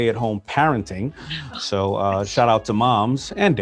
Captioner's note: laughs